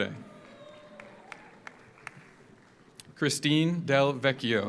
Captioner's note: audience cheers; audience applauds